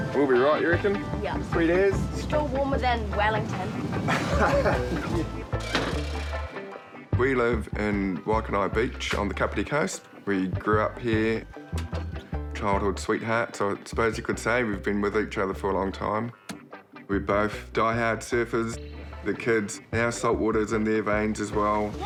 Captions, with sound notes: - We'll be right, you reckon? - Yup. - Sweet as. - Still warmer than Wellington. - (CHUCKLES) - 'We live in Waikanae Beach on the Kapiti coast. We grew up here. Childhood sweethearts, I suppose you could say. We've been with each other for a long time. We're both diehard surfers. The kids, now salt water's in their veins as well.